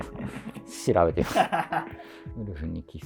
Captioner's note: laughing